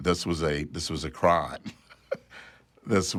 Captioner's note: chuckles